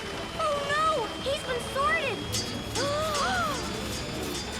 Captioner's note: both gasp